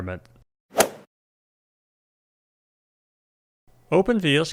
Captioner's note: golf swing sound effect